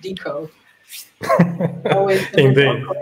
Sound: laughs

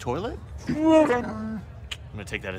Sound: wookie speak

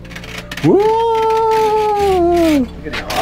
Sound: shrieking; scraper grinding

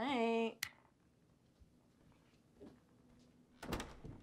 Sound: light clicks

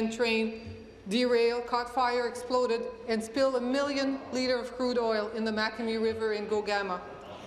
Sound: speaking in english

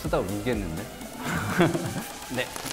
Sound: haha

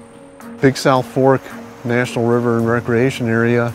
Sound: voiceover

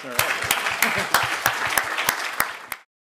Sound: applause

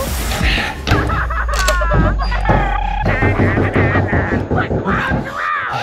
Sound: clowns making noises

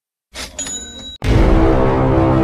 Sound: cash Register Sound Effect

